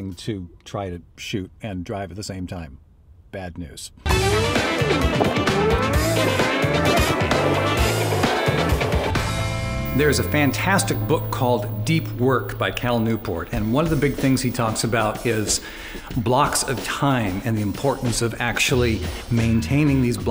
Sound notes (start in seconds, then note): 4.2 up beat music; 5.2 car engine revving